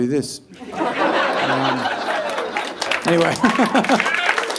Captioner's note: audience laughing